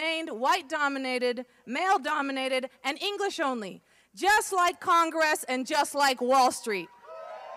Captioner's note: applause